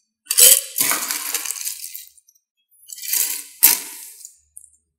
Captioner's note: ice crunching